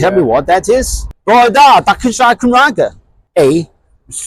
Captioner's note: in Welsh